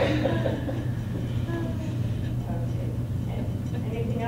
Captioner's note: laughter